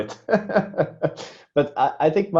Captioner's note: laughing